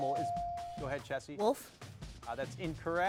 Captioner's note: bell dings